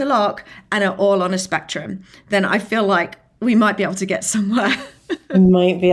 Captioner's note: laughs